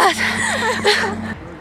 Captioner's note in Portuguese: risos